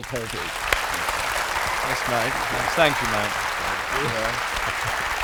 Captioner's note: applause